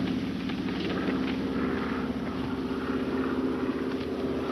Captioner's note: engine droning